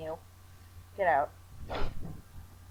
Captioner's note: sniffle